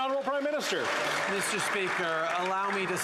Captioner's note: some Applause